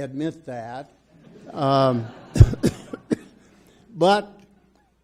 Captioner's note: audience laughs